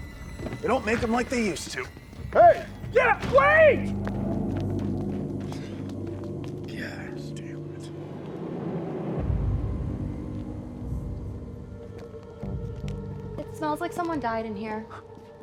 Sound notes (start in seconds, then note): 4.5 dramatic music continues; 5.4 sighs; 12.5 eerie music